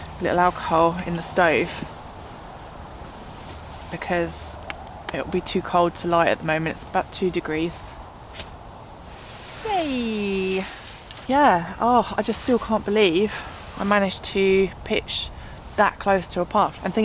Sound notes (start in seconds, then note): 8.3 ferro rod flick